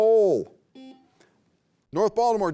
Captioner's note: beep